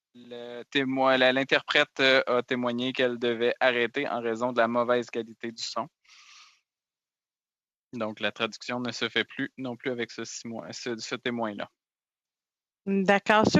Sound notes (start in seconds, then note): 2.1 speaking French